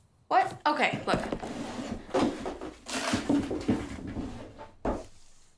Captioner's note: drawer creaks